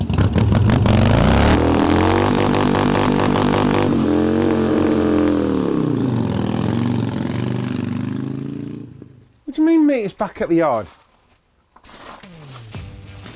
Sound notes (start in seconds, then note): 0.0 motobike revs